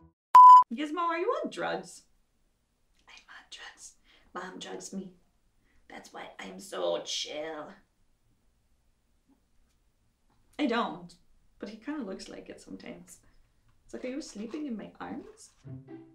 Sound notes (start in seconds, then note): none